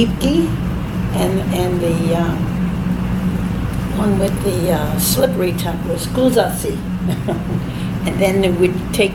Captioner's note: chuckles